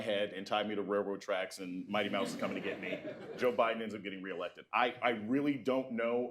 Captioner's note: laughter